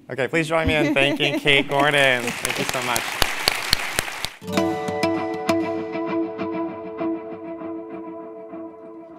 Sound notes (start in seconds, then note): 1.5 applause